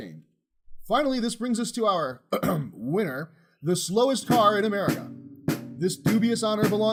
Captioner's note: clear throat